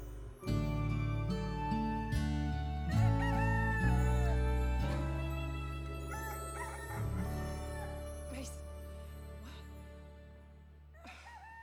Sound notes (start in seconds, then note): 2.6 rooster crows